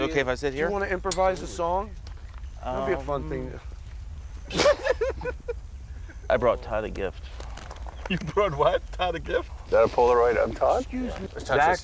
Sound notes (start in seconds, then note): 4.4 laughing